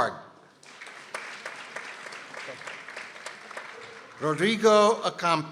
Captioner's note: people applauding